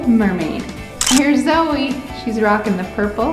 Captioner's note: camera shutter clicks